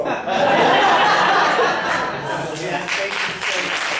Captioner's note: audience laughs